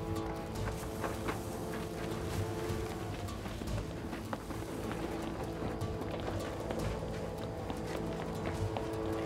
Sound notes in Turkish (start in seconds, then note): 0.0 Ayak sesleri; 0.4 Sürükleme sesleri